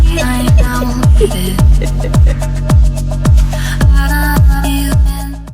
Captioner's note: laughing